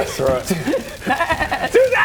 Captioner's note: baaaaaaaaaa